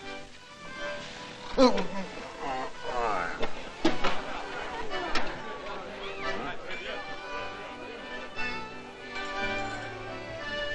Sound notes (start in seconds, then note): 1.2 gasping; 1.4 groaning